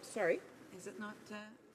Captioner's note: speaking French